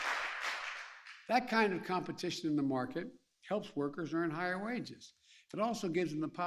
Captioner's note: applause